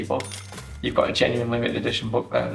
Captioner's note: bell dings